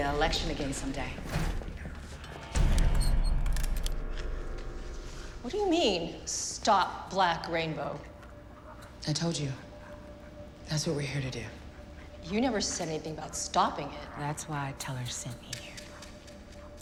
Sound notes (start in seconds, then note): 3.4 guns cocking